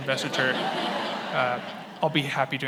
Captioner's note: attendees laughing